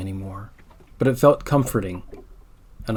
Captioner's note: calm water movement sound